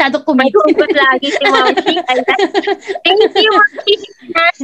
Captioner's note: laughs